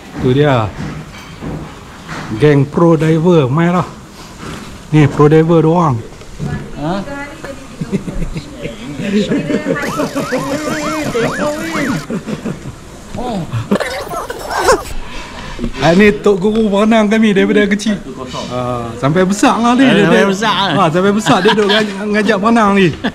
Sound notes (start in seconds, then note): 9.3 giggles